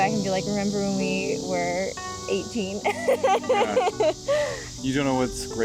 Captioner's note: laughs